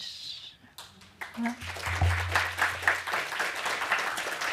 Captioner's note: applause